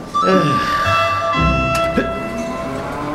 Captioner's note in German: Huppen